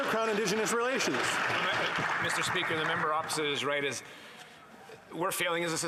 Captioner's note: some Applause